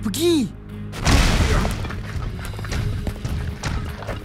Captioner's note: loud crash from above; light footsteps